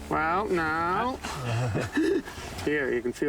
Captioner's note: they laugh